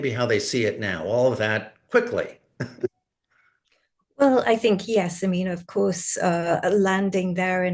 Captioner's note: laughs